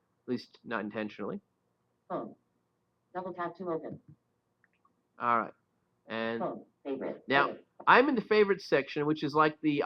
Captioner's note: Siri talking